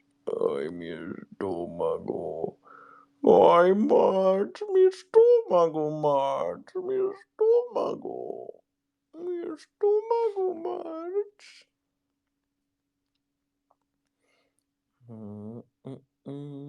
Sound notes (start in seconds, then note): 3.2 homer impression